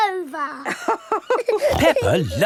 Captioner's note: both laughing